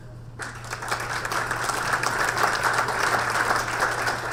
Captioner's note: audience applause